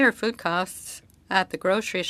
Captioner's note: speaking French